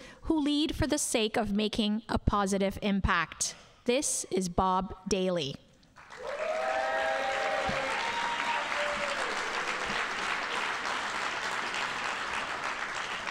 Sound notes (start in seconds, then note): 6.0 audience cheering and applauding